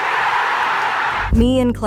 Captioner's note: people cheering